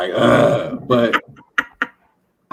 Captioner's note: laughter